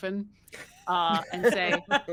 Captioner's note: group laughs